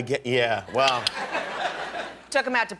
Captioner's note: laughter